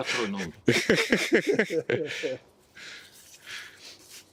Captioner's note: joyous laughter